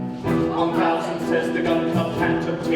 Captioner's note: chanting